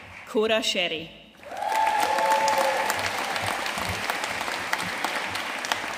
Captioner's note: audience cheering and applauding